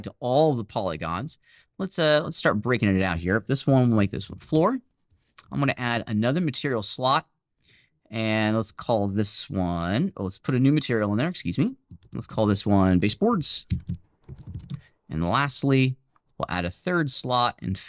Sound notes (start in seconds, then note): 13.6 loud keyboard typing